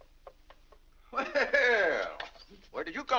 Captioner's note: laughs